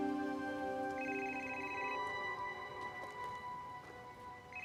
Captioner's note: gentle music continues; phone ringing